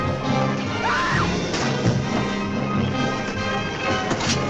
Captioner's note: Julie screaming